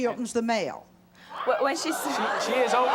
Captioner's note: audience jeering